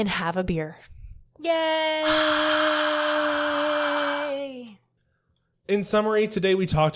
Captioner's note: making a breathy noise that's supposed to sound like a crowd cheering